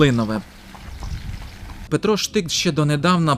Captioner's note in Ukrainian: Стукіт копит коня